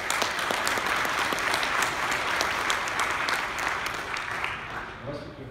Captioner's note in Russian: аплодисменты